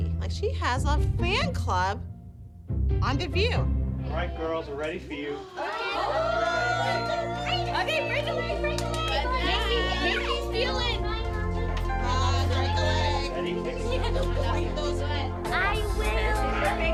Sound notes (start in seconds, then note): 6.8 excited chatting